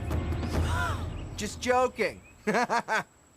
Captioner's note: laughs